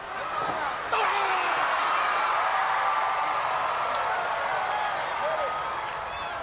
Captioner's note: crowd cheering; Vader groaning